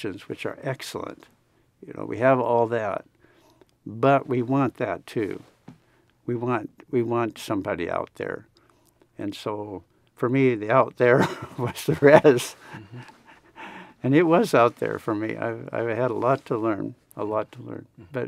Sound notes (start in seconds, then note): 11.8 laughs